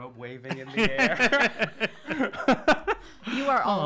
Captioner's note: laughs